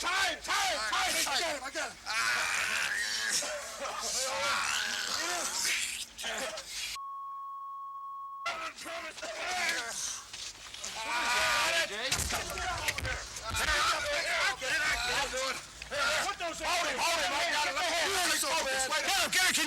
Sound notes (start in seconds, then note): 2.1 Dusty groaning; 6.9 beep; 9.1 Dusty groaning; 9.1 people yelling; 18.1 people yelling